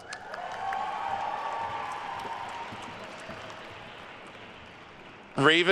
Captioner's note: attendees cheering and applauding